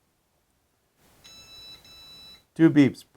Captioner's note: powerbolt beeps